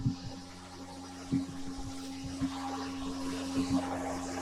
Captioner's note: motor whirring